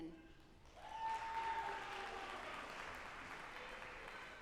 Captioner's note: audience applauding